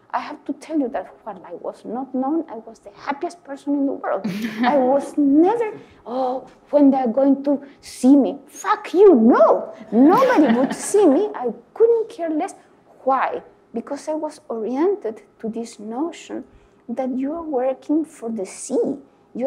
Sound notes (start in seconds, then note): 4.2 laughs; 9.9 audience laugh